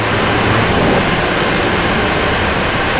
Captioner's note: engine revving